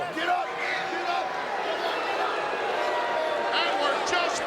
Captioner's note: crowd booing